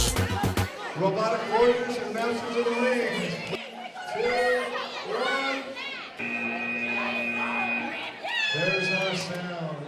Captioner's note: buzzer